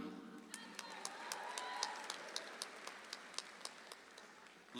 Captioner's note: audience applauds